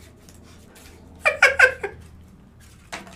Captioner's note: elmo laugh